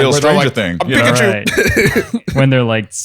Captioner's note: laughs